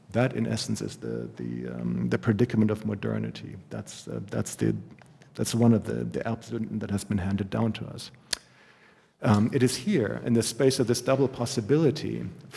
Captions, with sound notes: That, in essence, is the predicament of modernity. That's one of the [GERMAN] has been handed down to us. It is here, in the space of this double possibility,